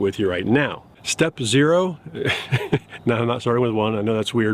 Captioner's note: chuckles